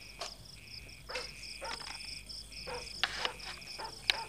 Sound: dog barking

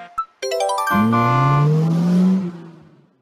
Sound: horn and acceleration

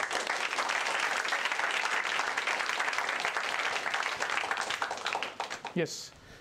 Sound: applause

